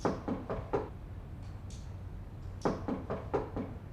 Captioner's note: knocking